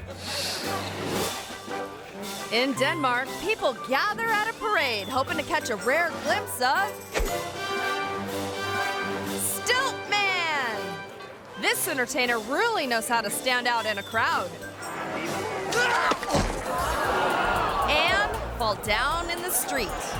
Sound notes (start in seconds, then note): 0.1 audience laughing; 7.2 majestic music; 15.0 crowd gasping; 16.5 stilt man thudding